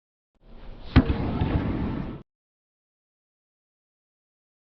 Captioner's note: racket hitting the ball